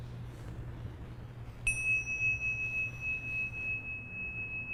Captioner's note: bell ringing